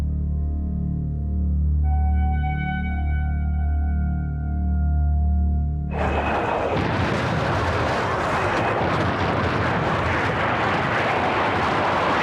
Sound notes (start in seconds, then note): 5.9 jet engine roaring